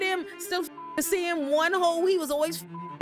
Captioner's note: beep